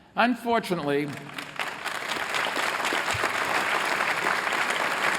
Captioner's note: applause